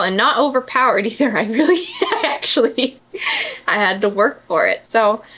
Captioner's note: laughs